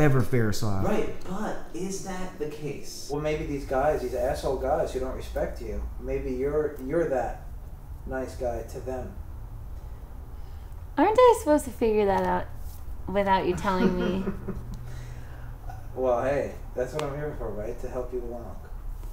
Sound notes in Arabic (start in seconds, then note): 13.5 يضحك عالم النفس